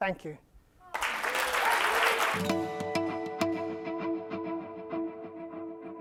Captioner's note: applause